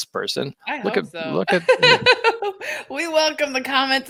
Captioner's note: laughing